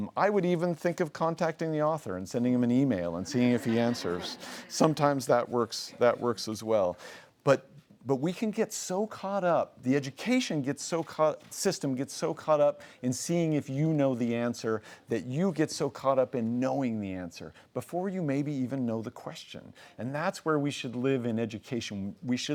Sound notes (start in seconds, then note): 3.2 laughing